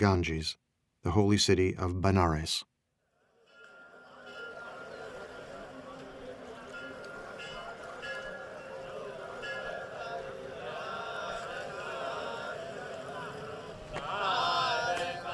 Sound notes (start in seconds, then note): 3.5 bell tolling in distance; 11.2 chanting in foreign language